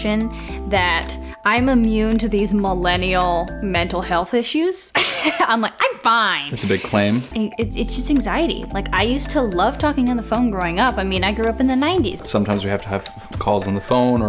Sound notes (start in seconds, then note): 6.5 laughs